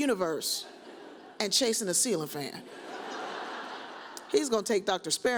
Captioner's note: audience laughs